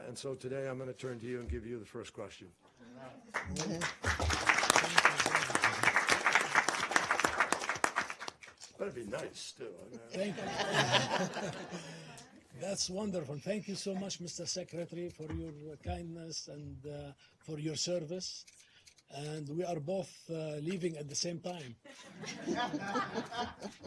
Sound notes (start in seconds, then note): 3.3 applause; 8.5 laughter